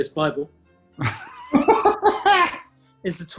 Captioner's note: laughter